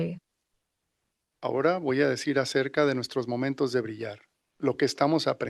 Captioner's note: non-english speech